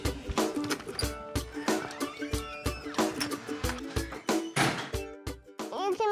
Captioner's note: door opens, closes